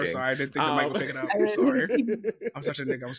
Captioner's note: laughing